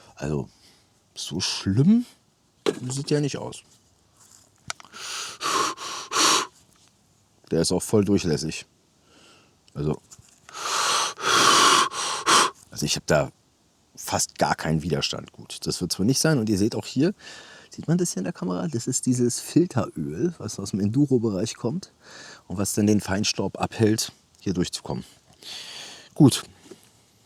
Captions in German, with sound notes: Also so schlimm sieht ja nicht aus. [japst][hecheln] Der ist auch voll durchlässig. Also, [seufzt][japst] [hecheln] also ich habe da fast gar keinen Widerstand. Gut, das wird zwar nicht sein. Und ihr seht auch hier sieht man das hier in der Kamera. Das ist dieses Filteröl, was aus dem Enduro Bereich kommt und was dann den Feinstaub abhält, hier durchzukommen. Gut.